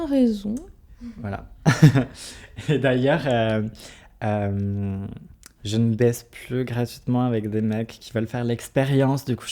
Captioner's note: laughs